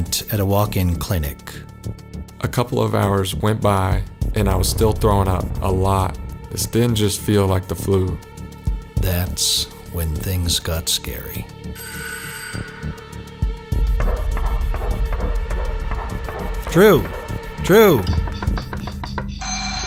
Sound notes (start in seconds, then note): 11.9 ringing; 13.8 knocks; 18.6 ringing